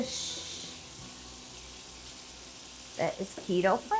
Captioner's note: shrimp sizzling